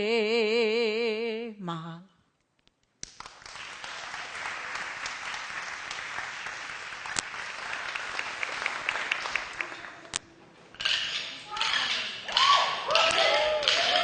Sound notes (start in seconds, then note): 3.1 applause; 10.9 taiko drums